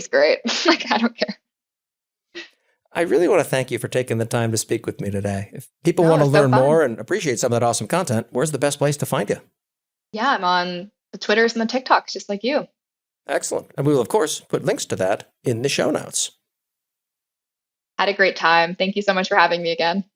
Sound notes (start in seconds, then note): 2.6 laugh